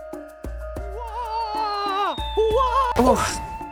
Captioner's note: cartoon falling sound; Mario falling screams